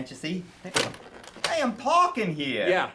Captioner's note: phone thuds